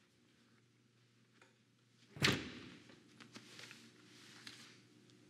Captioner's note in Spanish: sonido al cerrar la puerta